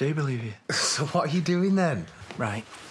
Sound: laughing

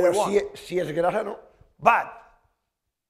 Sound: speaking spanish

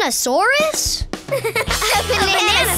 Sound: laughing

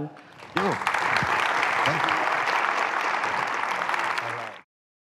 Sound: applause

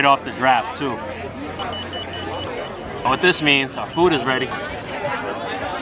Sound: beeps

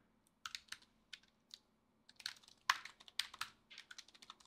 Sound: keyboard clicking

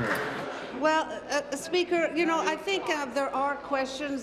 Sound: applause

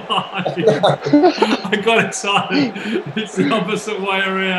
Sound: laughs

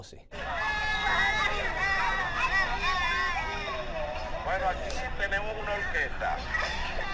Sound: sound of a wailing child

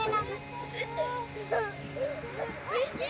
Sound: giggling

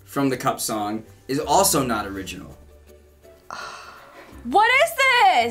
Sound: sighs softly

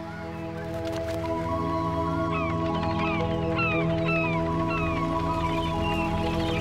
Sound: engine running

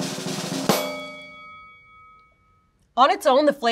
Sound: drum roll; bell dings

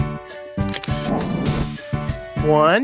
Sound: SFX: Camera Shutter

